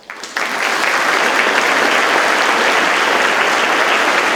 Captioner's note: audience claps